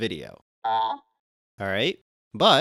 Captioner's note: Larry AI sounds